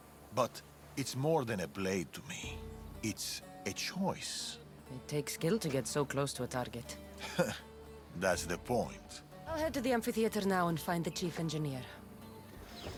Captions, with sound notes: ...but, it’s more than a blade to me. It’s.. a choice. It takes skill to get so close to a target. (laugh) That’s the point. I’ll head to the amphitheater now and find the chief engineer.